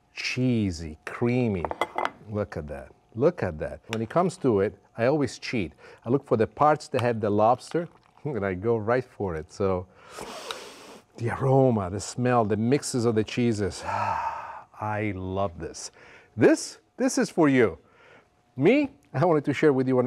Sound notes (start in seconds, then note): 9.9 inhales deeply